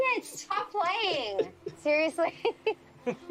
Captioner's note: chuckling